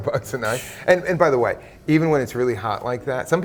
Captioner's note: laughing